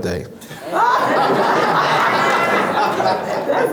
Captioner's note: laughs